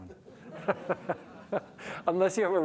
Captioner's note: crowd laughing